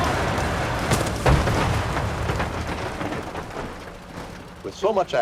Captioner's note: truck thudding